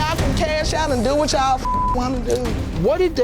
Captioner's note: beep